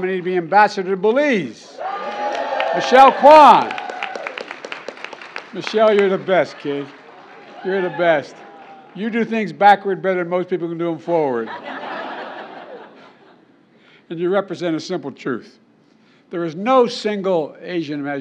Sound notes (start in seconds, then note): 3.9 applause; 7.4 applause; 11.4 laughter